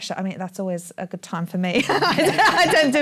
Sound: laughs

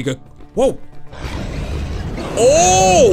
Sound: dragon roars

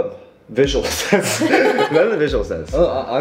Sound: chuckle

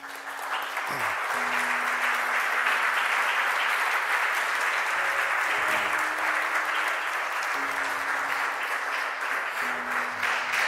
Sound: applause

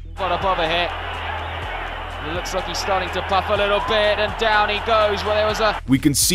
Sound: crowd noise

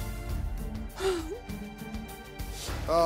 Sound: sighs

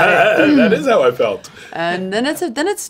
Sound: laughs

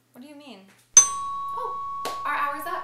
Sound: bell noise

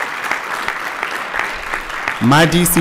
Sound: applause

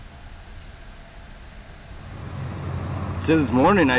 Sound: distant highway traffic

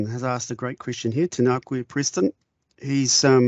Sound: speaking in te reo Māori

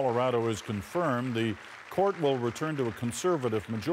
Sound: applause

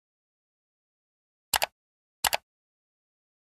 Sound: mouse clicks

